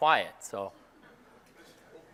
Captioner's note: laugh